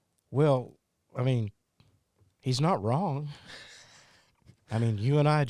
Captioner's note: laughs